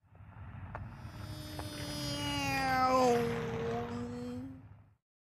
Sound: imitating plane engine

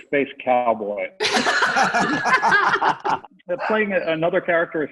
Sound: everyone laughing

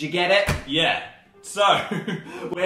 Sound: laughs

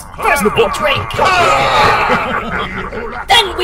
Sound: Klingon cheers

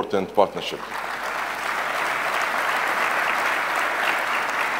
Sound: audience clapping hands

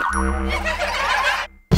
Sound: all laughing

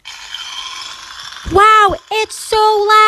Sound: cereal crackling

